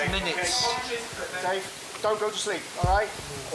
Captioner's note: group chattering